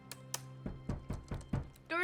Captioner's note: knocking on door